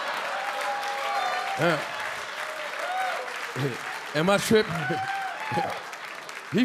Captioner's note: audience cheering and clapping; Charlie chuckling